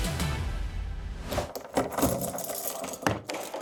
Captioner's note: keys jingling